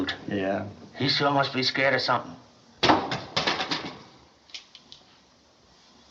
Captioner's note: clattering